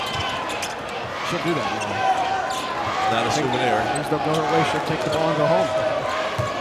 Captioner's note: crowd cheering